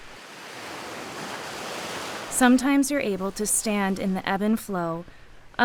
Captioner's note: waves crashing